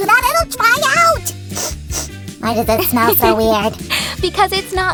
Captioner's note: sniffs